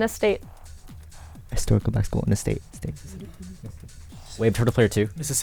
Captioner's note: wispering